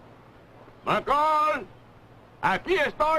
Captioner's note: shouting